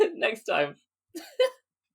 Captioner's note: laughing